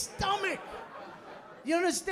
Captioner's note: laughter